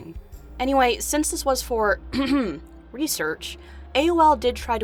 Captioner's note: cough cough